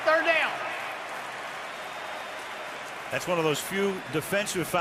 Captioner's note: applause